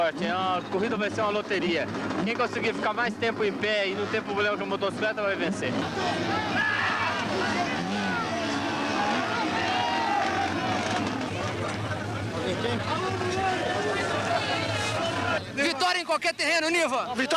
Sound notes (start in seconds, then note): 5.5 crowd chatter; 6.2 motorcycle engine; 12.5 crowd chatter